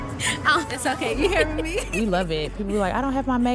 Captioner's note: laughing